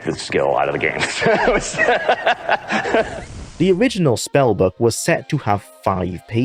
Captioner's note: laughs